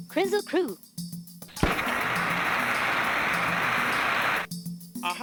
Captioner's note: fire sizzling